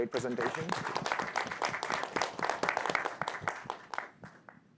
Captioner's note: audience clapping